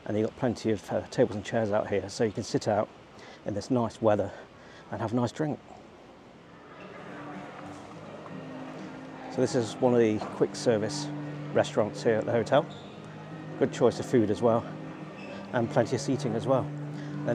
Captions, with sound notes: And they've got plenty of tables and chairs out here so you can sit out in this nice weather and have a nice drink. (people chattering) (upbeat music) So this is one of the quick-service restaurants here at the hotel. Good choice of food, as well, and plenty of seating, as well.